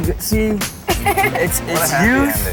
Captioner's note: laughing